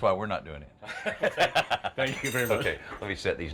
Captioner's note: both laughing